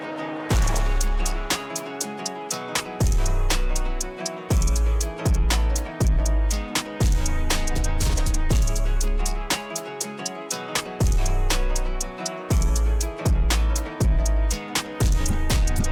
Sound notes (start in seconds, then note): 3.8 engine Rumbling